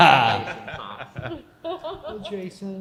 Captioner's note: chuckles